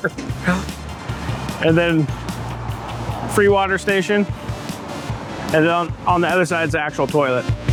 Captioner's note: laugh